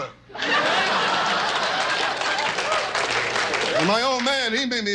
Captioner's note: audience laughs